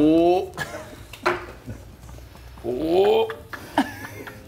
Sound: laugh

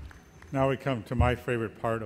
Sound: voiceover

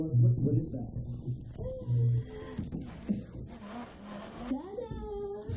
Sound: electronic crackling

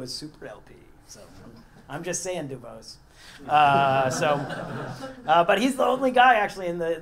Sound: laugh

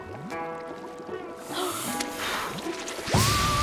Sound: blowing

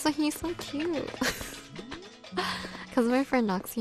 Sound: laugh

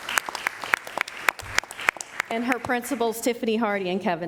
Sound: applause

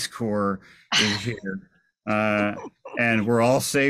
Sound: chuckles

